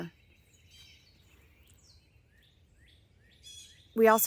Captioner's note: birds chirping